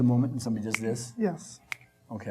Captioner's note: snapping